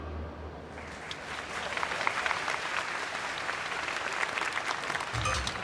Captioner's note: audience applauding